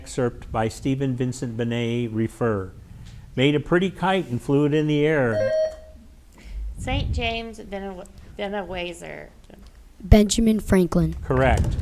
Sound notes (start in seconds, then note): 5.4 bell rings